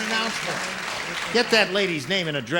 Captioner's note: applause